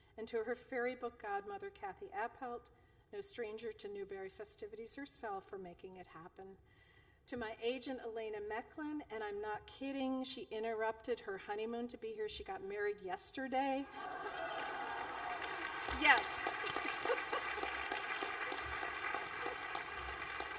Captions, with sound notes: And to her fairy book godmother, Kathy Appelt--no stranger to Newbery festivities, herself--for making it happen. To my agent, Elena Mechlin, and I'm not kidding, she interrupted her honeymoon to be here. She got married yesterday! (Applause). Yes!